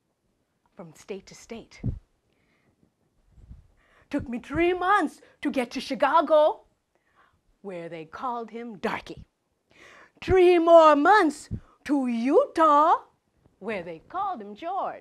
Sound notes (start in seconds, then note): none